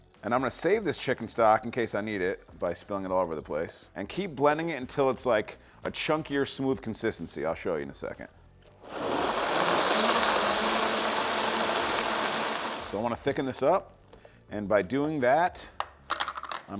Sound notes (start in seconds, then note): 8.8 blender whirring